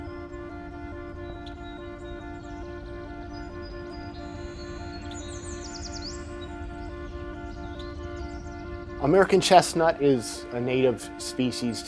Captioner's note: birds chirping